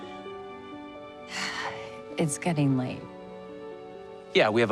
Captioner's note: sighs